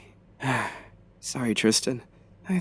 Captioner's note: sighs